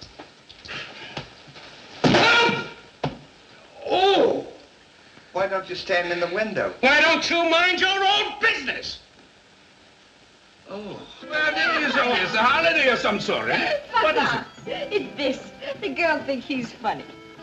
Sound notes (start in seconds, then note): 2.0 thud!